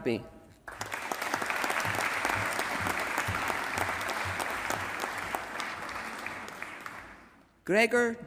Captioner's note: applause